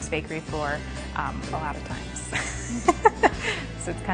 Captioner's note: laughs